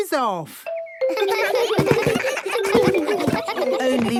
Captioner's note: giggles